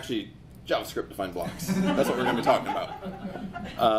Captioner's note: audience laughs